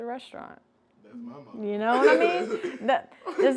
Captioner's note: laughs